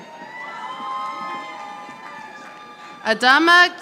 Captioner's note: audience applauding